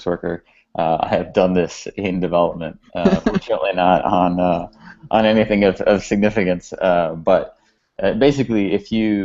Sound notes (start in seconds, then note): 3.0 laughter